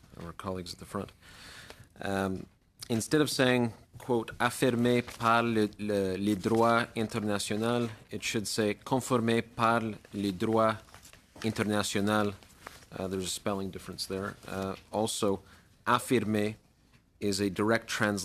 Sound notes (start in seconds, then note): 13.4 speaking French